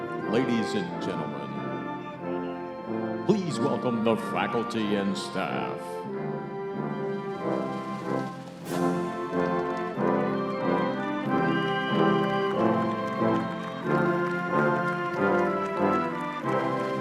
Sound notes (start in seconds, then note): 6.1 cheering and applause